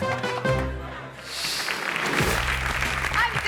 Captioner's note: audience clapping; people clapping; screen whooshes